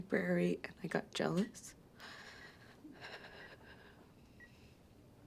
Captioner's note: sighs